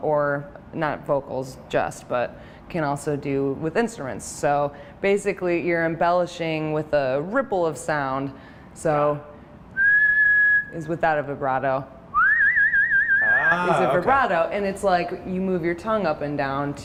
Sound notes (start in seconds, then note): 9.1 whistles; 12.1 rippling whistle